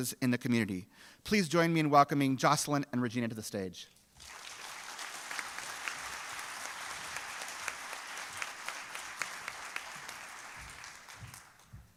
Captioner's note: applause